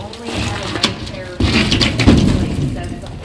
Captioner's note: scraping